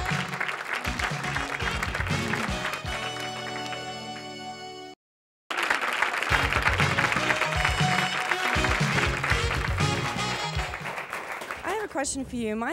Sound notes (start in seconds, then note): 0.0 theme music; 5.5 audience applause; 6.2 theme music